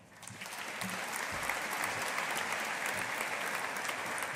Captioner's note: audience applauding